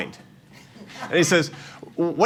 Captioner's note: laughter